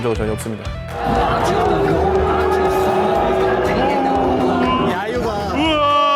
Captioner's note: The crowd is booing MulGold